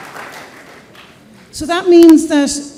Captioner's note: applause